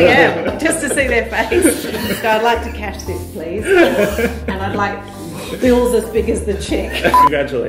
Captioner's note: laughter